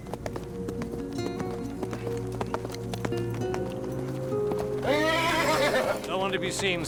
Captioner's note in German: leise Instrumentalmusik; Pferd wiehert